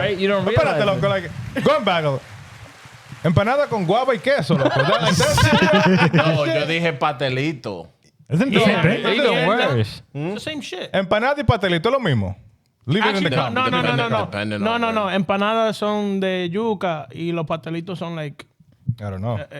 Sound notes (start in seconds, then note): 1.5 laughing; 1.5 speaking In Foreign Language; 11.5 speaking In Foreign Language; 16.0 speaking In Foreign Language